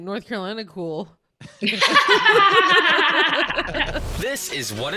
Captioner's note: laughing; intro music